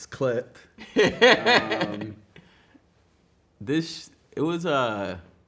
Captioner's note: man laughing